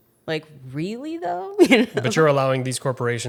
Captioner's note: laughs